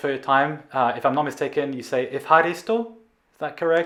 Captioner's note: speaking in greek